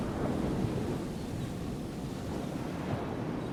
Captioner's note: waves crashing